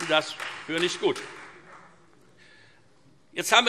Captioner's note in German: Beifall Freie Demokraten